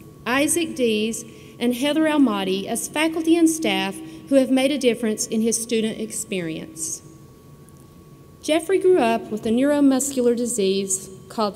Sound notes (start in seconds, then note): none